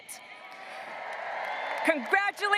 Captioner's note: graduates applauding and cheering